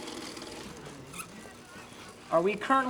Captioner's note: machine whirring